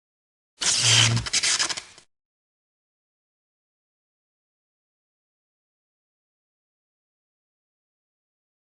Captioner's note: sparking noise